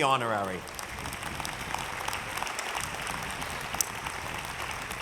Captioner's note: audience clapping